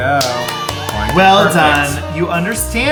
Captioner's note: clapping